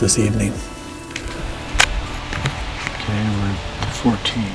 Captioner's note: sound of slicing tag